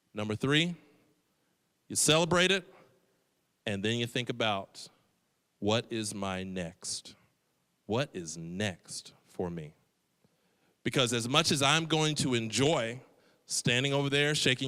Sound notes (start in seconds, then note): none